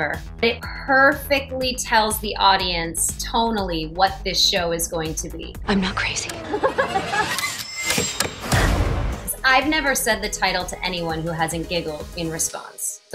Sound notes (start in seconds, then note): 6.4 laughing maniacally; 7.7 suspenseful music